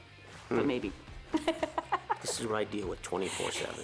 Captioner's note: laughing